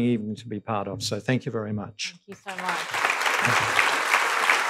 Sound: applause

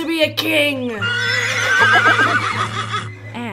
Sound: laughter

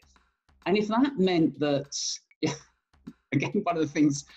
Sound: laughs

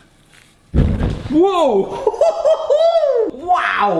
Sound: laughs

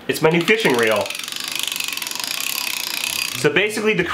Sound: reel clicks happily

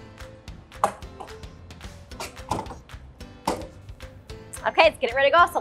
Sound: plastic clattering

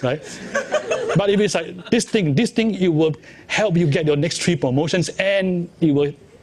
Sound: laughs

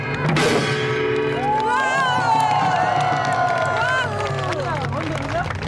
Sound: audience cheering

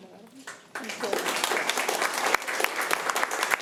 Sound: applause

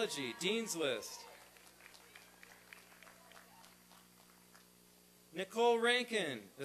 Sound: applause and cheering

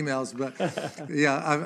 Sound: laughs

